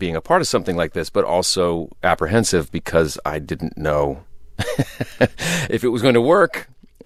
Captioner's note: laughter